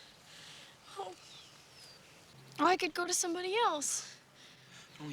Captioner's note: moans